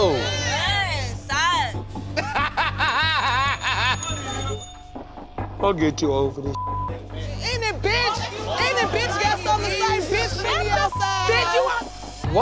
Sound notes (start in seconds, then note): 2.0 laughs